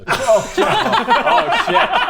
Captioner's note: horrified laughter